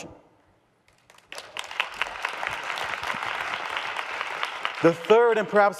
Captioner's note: audience applause